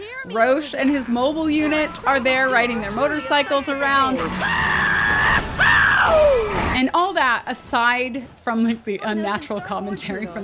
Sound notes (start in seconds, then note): 4.1 gleeful screaming